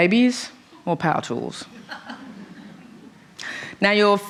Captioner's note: laughter